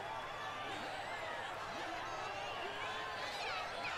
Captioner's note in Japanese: 大歓声